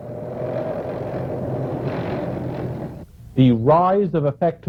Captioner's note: tanks rumbling